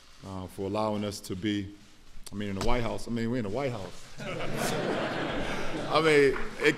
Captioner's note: laughter